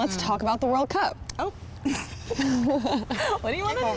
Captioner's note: laughs